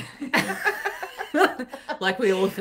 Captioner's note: laughing